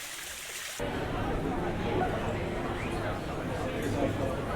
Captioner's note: crowd murmuring